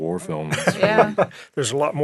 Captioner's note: laughing